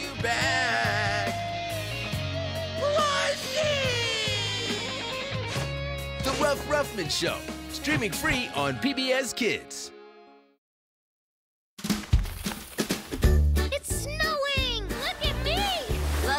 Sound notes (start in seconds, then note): none